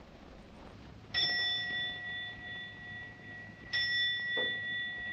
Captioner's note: clock chiming